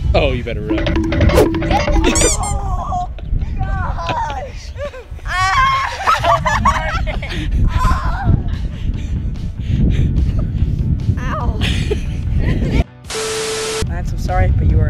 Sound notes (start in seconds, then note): 0.7 timer counting down; 0.8 squeak; 5.3 screaming